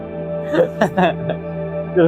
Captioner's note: laughs